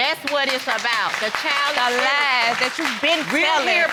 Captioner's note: audience clapping